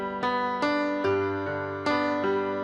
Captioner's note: none